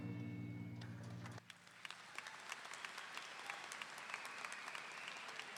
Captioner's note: audience applauding